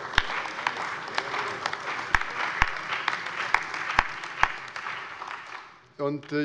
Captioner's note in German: Allgemeiner Beifall